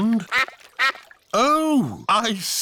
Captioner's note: quacking